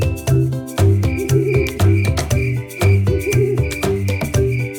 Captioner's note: bell dinging; crickets chirping